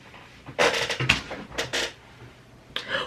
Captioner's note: loud chair creak